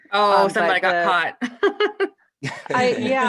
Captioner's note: laughter